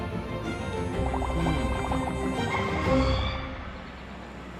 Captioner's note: bubbles rumble